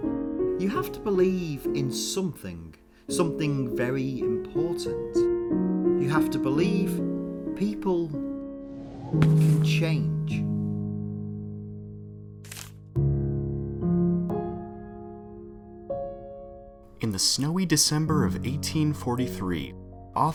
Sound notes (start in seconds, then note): 8.6 air whooshes